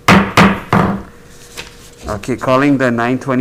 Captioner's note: gavel bangs